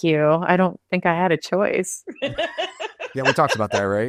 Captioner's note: laughs